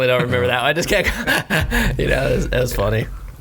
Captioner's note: laughs